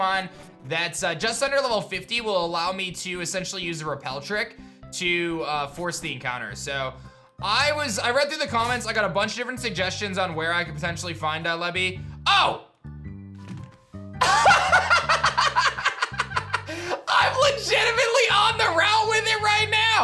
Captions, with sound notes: that's just under Lv. 50 will allow me to essentially use a Repel trick to force the encounter. So, I was... I read through the comments, I got a bunch of different suggestions on where I could potentially find Dielebi. Oh! (laughs) I'm legitimately on the route with it right now.